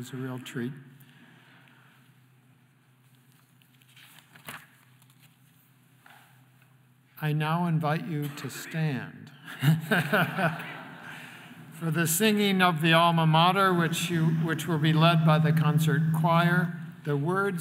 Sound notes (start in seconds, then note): 9.5 laughs